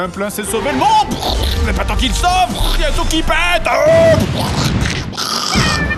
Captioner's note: blast sounds